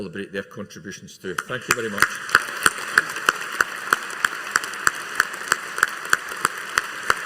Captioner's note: audience applauding